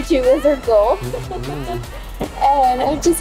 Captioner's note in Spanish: Risas